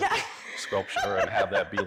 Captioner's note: laughs